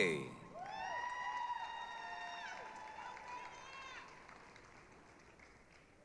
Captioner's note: applause, cheering